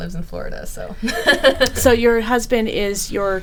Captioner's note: laughing